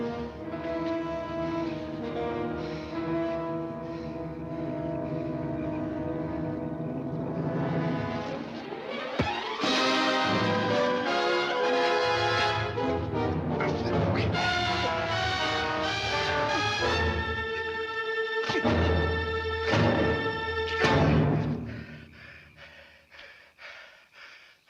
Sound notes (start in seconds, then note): 0.3 dramatic music continues; 9.1 rock thuds; 9.1 dramatic music continues; 18.4 dramatic music continues; 18.4 rock thuds; 22.0 Danny panting